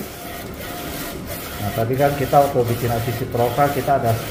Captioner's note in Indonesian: suara mesin printer